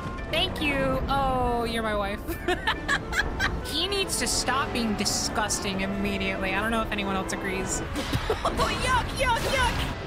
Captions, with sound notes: Thank you! Ohh, you’re my wife. [Laughter] He needs to stop being disgusting immediately. I don't know if anyone else agrees. [Laugh] Yuck, yuck, yuck!